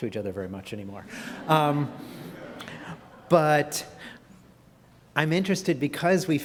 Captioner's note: laugh